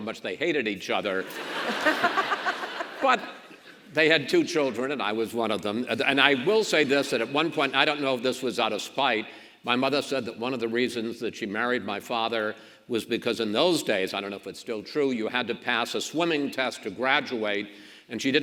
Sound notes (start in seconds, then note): 1.2 audience laughs; 1.5 governor laughs